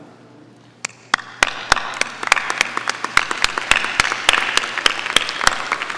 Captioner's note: graduates applauding